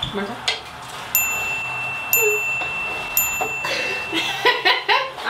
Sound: chime; laughs

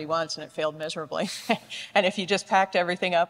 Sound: chuckles

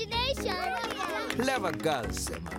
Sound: cheering

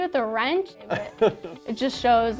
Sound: laughs

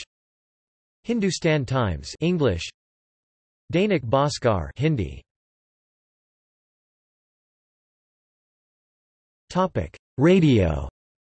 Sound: Hindi; Hindi

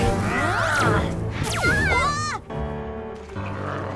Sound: alien growls; children yell; alien growls

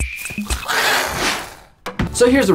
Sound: bird screams

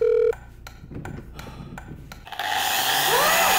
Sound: phone rings; sighs; drill buzzes; woman screams

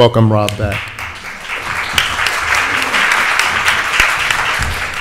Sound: audience applauds

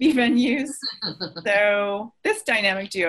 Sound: laugh

